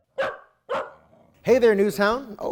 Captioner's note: dog barking